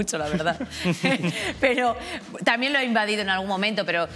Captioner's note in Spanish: algunos ríen